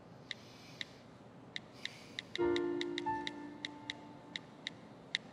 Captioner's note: cellphone clicking